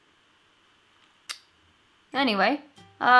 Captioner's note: clicks tongue